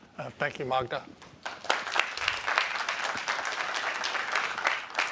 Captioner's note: applause